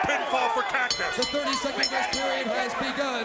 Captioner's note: bell ringing